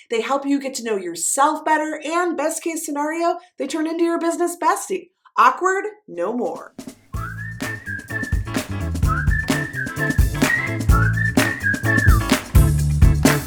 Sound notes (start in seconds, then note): 7.1 whistling; 7.2 upbeat music